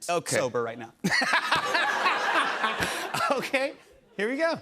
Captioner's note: laughter